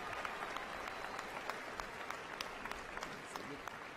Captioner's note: applause